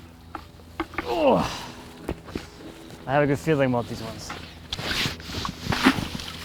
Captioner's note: grunts; water splashing